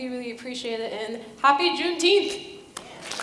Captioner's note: audience applause